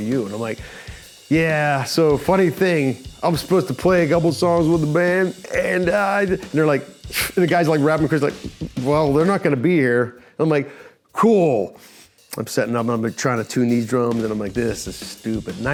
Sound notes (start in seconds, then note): 6.9 snorts